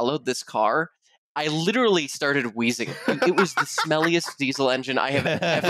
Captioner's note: laughter